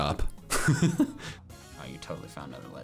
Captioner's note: laughs